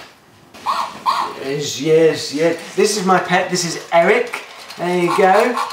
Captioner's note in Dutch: Robothond blaft